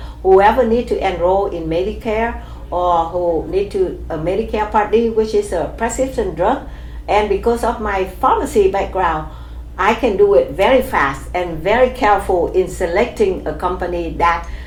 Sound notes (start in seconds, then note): none